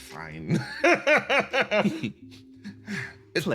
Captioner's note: laugh